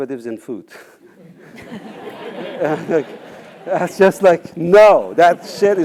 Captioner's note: laugh